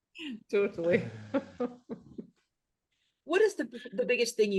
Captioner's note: laughs